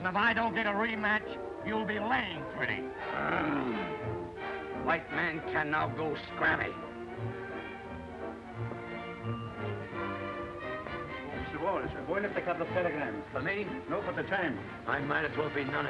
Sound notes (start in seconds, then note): 4.6 knobby growls